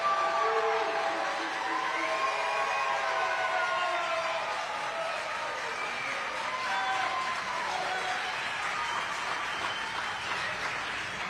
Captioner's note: applause